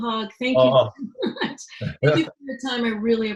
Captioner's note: laughing